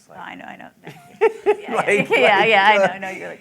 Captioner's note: laughter